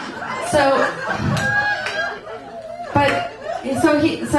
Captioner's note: audience laughs